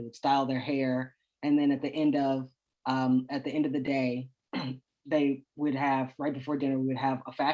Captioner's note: clears throat